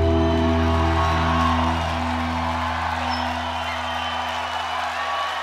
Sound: audience applauds and cheers

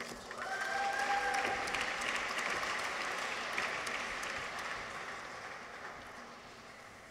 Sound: audience applauds; people cheer

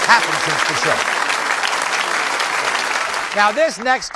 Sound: audience applauding

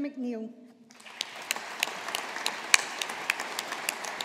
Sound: audience applauding

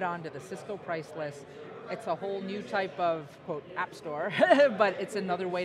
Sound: laughs

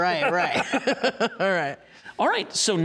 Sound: laughing

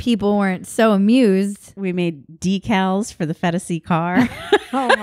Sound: laughs

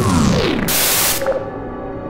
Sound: Static

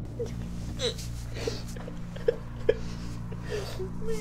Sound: car engine growls; soft sobbing

